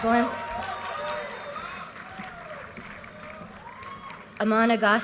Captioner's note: audience cheers and applause